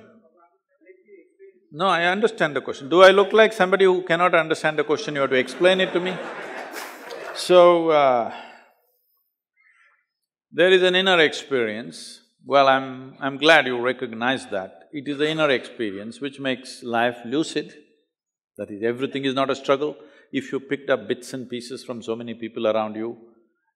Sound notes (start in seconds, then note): 5.4 laughter